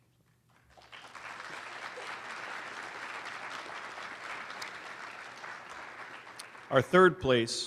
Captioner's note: applause